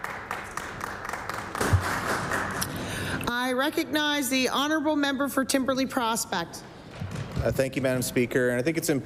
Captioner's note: applause